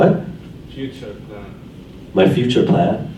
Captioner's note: voiceover